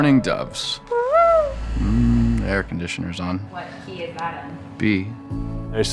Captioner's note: makes bird noise